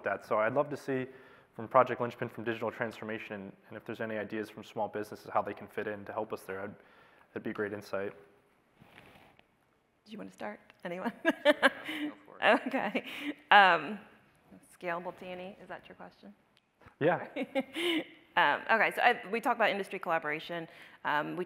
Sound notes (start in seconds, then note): 11.2 laughs